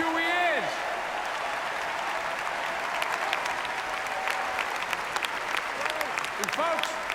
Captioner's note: applause